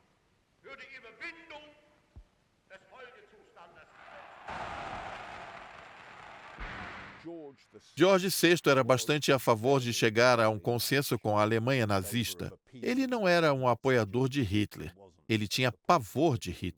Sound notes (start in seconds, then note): 4.1 crowd cheering